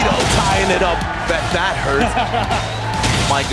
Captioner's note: crowd cheering; laughs